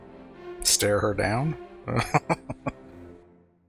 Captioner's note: laughing